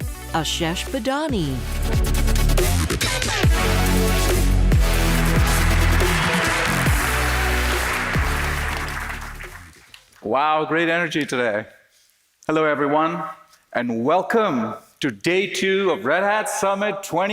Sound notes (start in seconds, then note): 4.8 applause